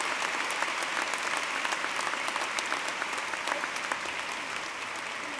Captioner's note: applause